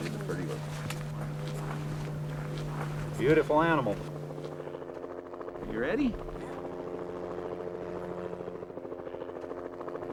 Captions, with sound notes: That is a pretty one. - Beautiful animal! You ready? - Yeah. (helicopter blade whirring)